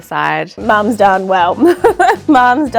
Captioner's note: laughs